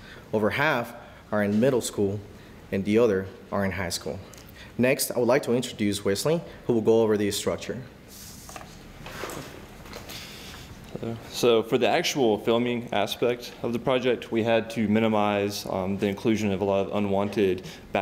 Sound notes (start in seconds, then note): none